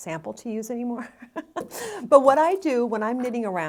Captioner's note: laughs